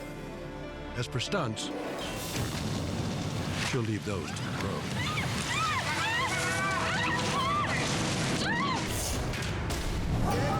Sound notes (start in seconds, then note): 2.3 explosion booms; 4.9 screams; 8.8 dramatic music